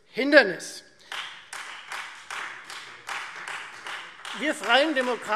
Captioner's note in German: Beifall Freie Demokraten und vereinzelt SPD